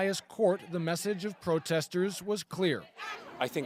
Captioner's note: chanting